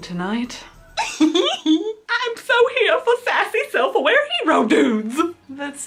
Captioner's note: giggles